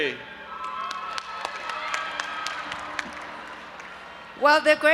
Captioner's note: audience applauding and cheering